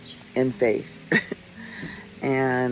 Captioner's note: chuckles